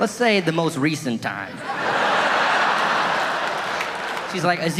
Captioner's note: audience laughing